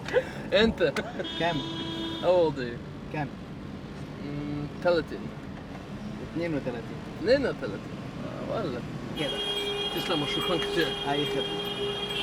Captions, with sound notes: - How old are you? (Both speaking Arabic) (Both speaking Arabic)